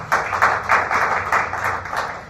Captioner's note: applause